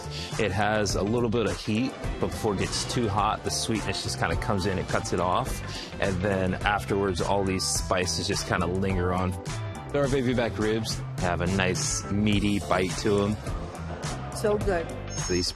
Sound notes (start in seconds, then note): none